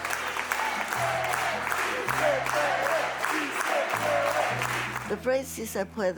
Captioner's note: applause